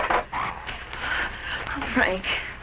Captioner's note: animals calling